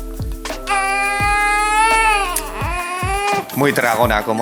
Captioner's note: cries a lot